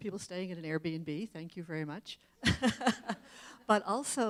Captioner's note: laughs